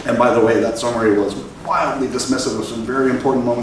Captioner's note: none